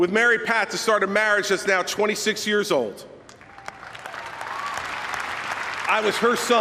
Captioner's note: applause